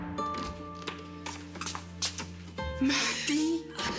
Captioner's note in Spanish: sonido al abrir la puerta